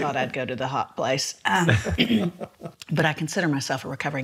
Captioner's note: laughs